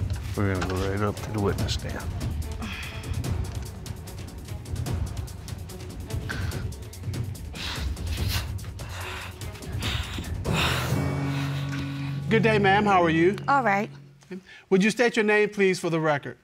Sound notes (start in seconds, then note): 2.5 dramatic music playing; 2.5 sighs; 7.4 retches, breathes heavily